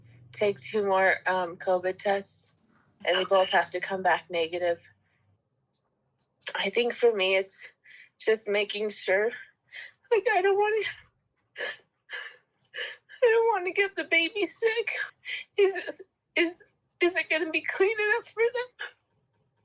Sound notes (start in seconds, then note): 10.0 voice breaking